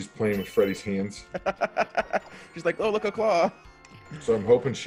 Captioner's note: laugh